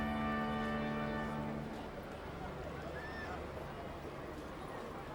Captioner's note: distant chattering